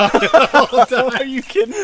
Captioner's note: laughs